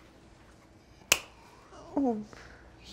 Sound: claps hands

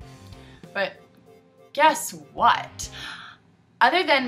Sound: highly sarcastic

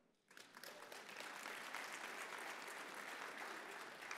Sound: audience applauding

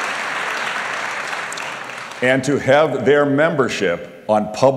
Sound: applause

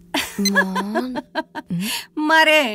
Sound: laughs

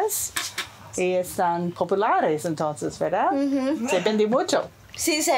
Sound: speaking foreign language

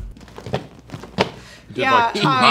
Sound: chair thumping

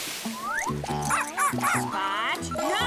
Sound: barking

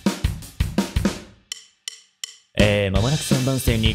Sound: deep voice

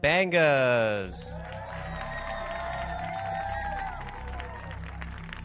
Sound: audience applauds

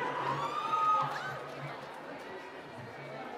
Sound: cheering

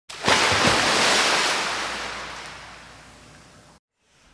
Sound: waves crashing

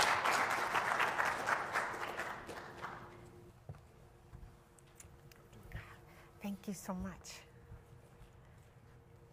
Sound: applause

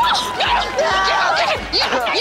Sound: screaming

